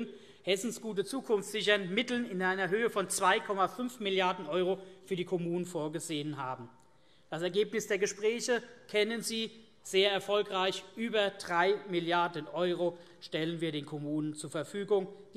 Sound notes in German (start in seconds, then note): none